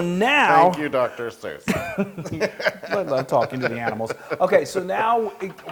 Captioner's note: laugh